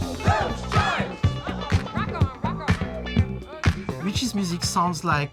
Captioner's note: woman on recording